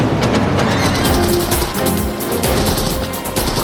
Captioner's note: gunfire